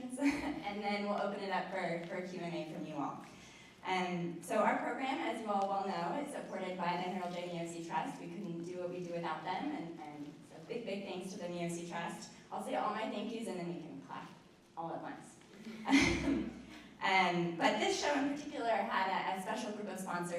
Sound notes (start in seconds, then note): 15.7 laughter